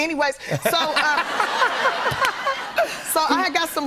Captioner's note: laughter